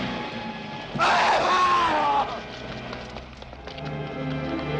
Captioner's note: men screaming